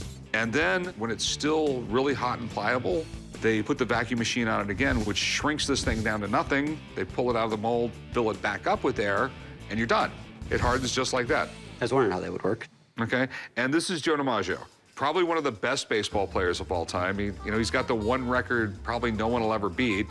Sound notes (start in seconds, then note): none